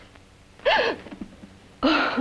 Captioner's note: gasps